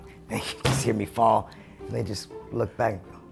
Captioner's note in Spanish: none